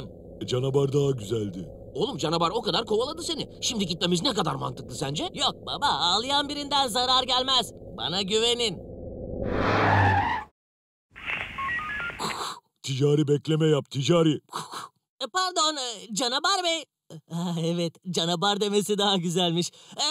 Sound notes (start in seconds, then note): 11.9 radio